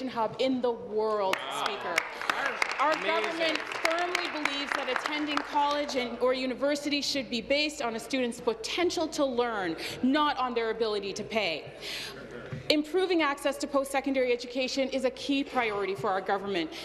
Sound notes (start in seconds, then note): 5.5 applause